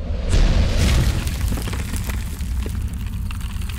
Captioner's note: crashing